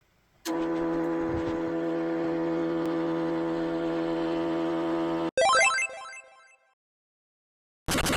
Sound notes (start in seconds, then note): 0.4 printing noise; 5.4 cheery bloop